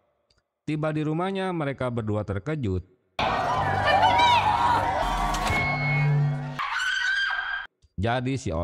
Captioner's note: applause